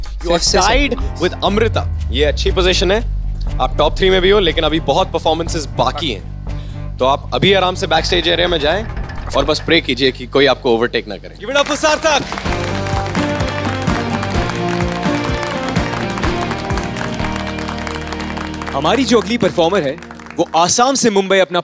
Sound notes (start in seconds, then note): 12.4 all applauding; 14.0 theme music playing